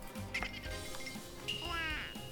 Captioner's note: laughing